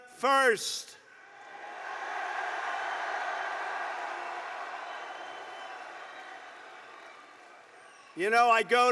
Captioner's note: applause